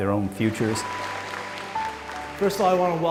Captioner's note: applause